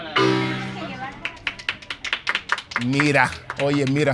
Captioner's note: people clapping hands